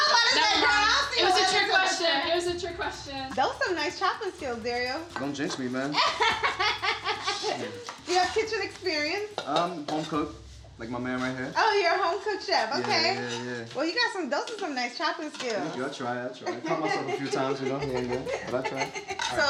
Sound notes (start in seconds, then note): 5.9 laughing